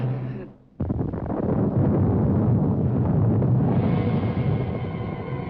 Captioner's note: thunder rumbling; dramatic music